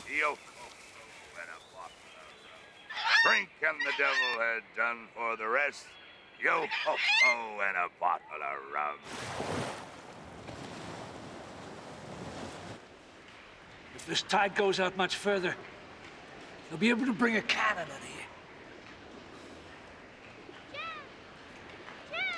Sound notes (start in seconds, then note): 9.0 waves crashing